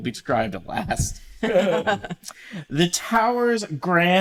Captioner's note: laughter